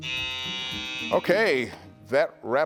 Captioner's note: buzzer buzzing